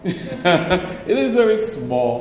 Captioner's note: laughs